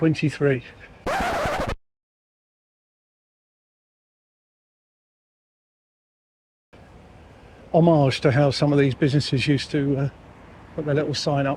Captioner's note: tires screeching sound effect